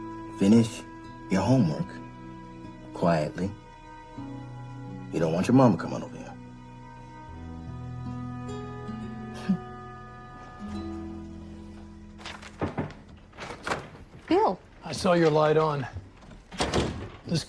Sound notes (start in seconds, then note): 9.4 small chuckle; 12.4 knocking